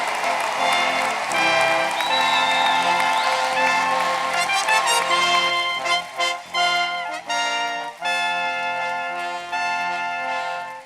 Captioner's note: cheers and applause